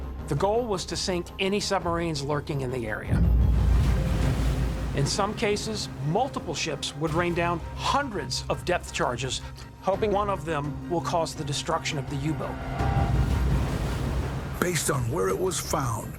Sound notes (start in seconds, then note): 2.8 water splashing; 3.1 explosion blasts; 12.4 explosion blasts; 12.4 water splashing